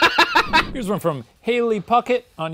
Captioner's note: laughing